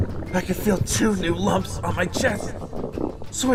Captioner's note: grunting